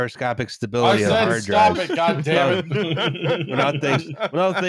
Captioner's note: laughs